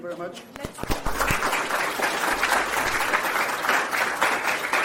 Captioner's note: applause